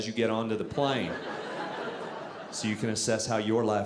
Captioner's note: audience laughing